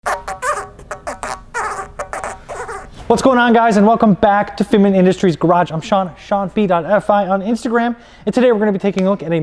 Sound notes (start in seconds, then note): 0.0 tire squeaking